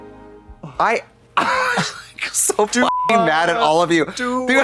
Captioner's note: beep